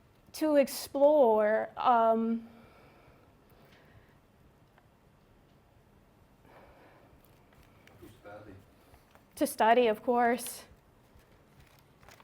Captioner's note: pause